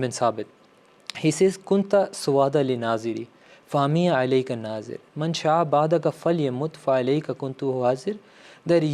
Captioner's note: Arabic